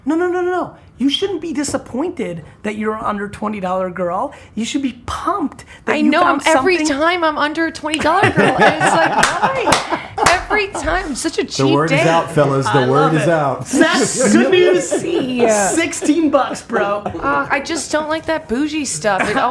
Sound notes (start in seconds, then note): 8.0 laughter and applause